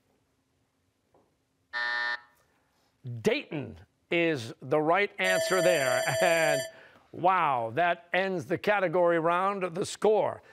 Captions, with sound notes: (buzzer) Dayton is the right answer there. (bell ringing) And, wow, that ends the category round.